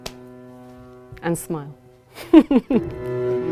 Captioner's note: laughs